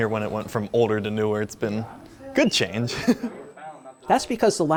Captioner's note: laughs